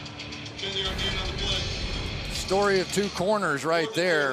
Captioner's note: rock music; pa announcement